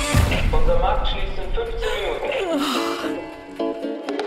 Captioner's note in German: Lautsprecher; Rhythmische Salsa-Musik